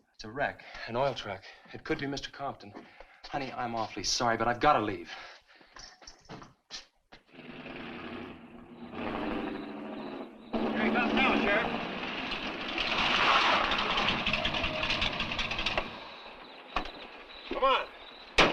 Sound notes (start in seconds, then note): 7.6 engine rumbling